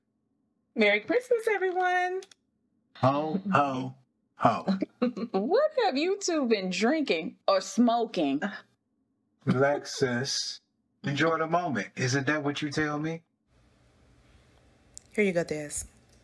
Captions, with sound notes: Merry Christmas everyone. Ho, ho, ho... [Everyone laughing] What have you two been drinking or smoking? Relax sis. Enjoyed the moment isn't that what you tell me? Here you go dez.